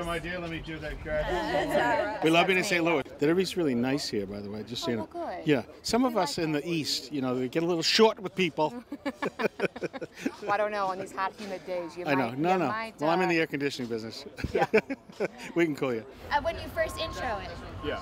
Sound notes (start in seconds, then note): 8.8 both laugh; 14.4 laughs